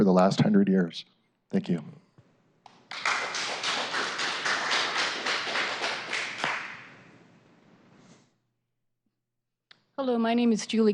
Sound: applause

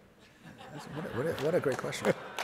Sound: audience laughing and applauding

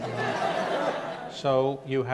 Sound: audience laughs

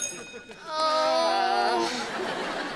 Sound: groaning

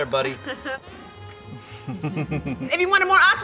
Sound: giggling

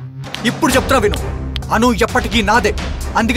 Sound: snaps finger

